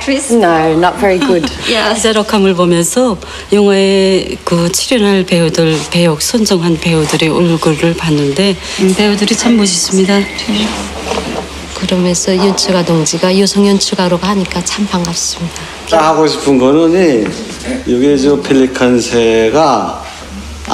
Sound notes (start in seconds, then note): 3.7 foreign Language